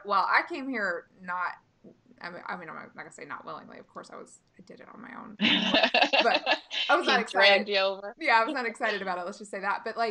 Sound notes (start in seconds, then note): 5.4 laughing